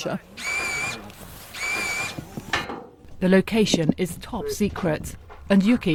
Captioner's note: machine buzzing